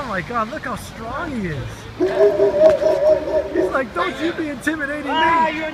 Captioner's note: dog barking